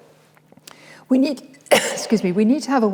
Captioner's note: coughs